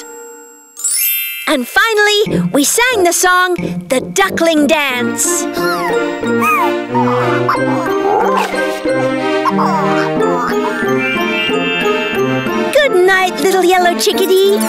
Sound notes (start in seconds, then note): 6.3 chirping and clucking